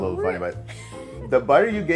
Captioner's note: laughs